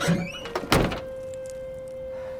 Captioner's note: trunk shuts